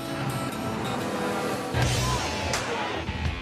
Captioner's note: truck horn honks